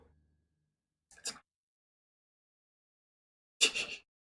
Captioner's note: whispers; laughs softly